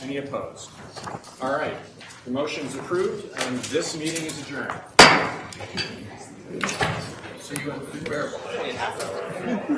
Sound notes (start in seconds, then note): 4.9 banging gavel